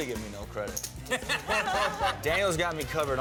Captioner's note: laughter